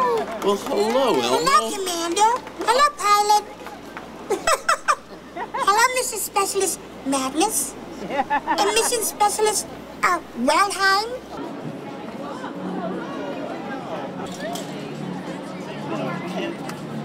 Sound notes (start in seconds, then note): 4.3 laughs; 11.2 crowd